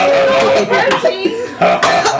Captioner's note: Maklaw and Ping-Pong laughing